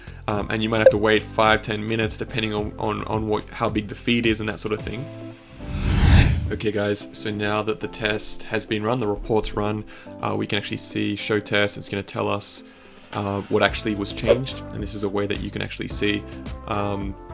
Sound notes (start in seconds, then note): 5.6 slide whooshing